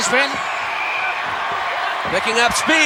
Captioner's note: audience cheering